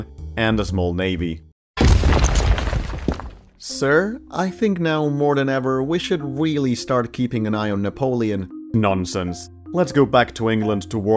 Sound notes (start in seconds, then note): 1.8 demolition noises